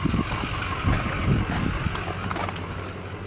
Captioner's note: wind blowing; shoes crunching on gravel